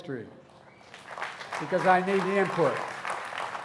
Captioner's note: applause